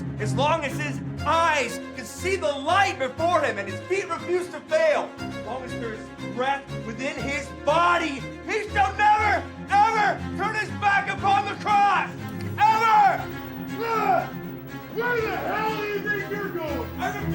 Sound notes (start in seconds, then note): 12.2 monitors whirring